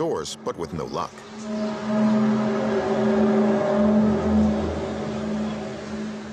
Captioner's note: groaning sound